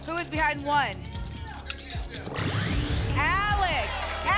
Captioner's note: buckeyes rattle